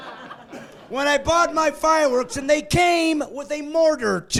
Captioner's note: laughing